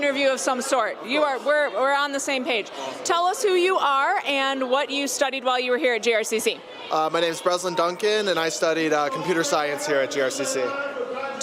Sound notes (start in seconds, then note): none